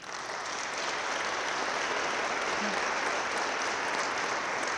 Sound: audience claps

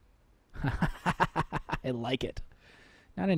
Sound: laughing

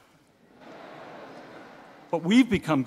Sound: audience laughing

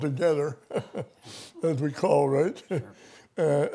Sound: laughter

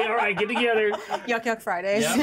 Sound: chuckles; speaker laughs

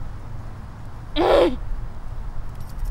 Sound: growl

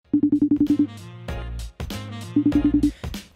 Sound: FaceTime call rings

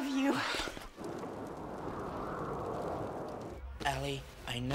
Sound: wind howling

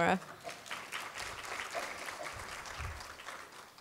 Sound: applause

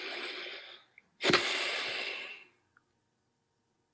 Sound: exhales

